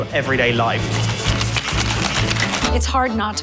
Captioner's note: rattling ice cubes